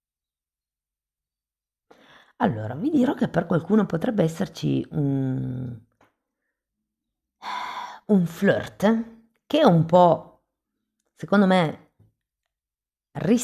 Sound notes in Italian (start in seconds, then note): 7.4 sospiri